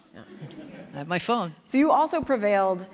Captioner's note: audience laughing